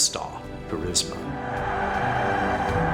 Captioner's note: crowd cheering